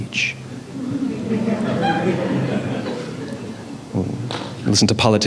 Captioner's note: La audiencia se ríe